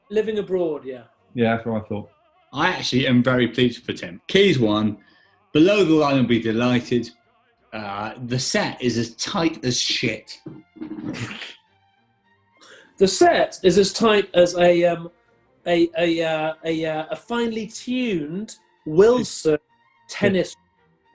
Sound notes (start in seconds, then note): 10.3 sniggers